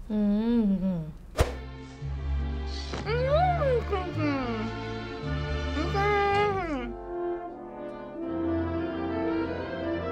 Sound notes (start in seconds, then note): 0.0 hums